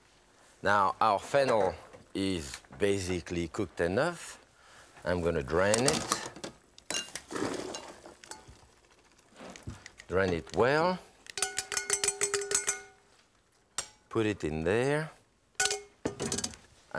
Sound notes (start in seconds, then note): 7.4 water pouring; 11.4 strainer clinking; 15.6 pan clinking